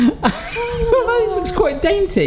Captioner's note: wheezing